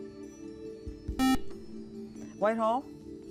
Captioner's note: beep